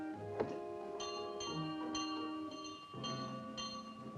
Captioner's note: bell rings